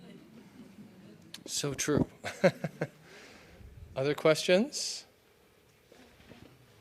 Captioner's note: laughter